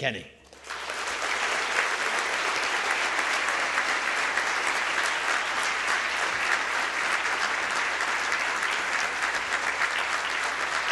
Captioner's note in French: Applaudissements